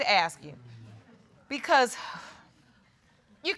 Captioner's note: sighs